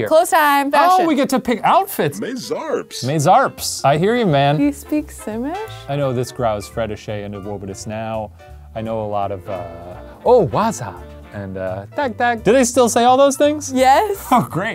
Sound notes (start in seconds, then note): 2.1 character speaking Simlish; 6.2 speaks Simlish; 9.4 speaks Simlish; 11.8 Simlish